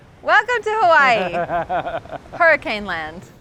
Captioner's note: laughter